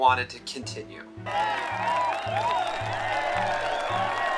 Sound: crowd cheering

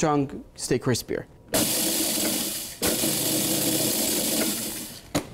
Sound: machine grinding

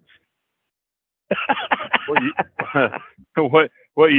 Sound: laughs

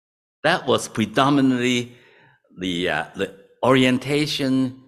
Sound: none

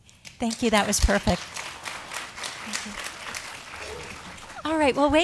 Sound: audience applause

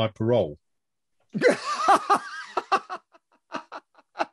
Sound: laughs

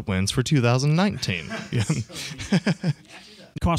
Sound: laughter

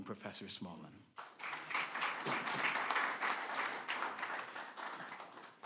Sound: audience clapping

